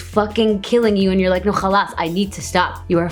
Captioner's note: foreign language